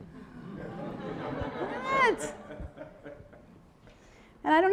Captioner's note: audience laughing